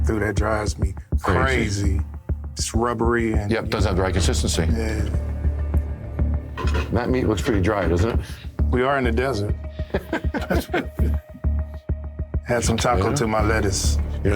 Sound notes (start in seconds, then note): 9.7 both laughing